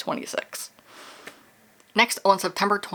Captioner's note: sigh